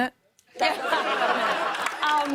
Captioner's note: laughter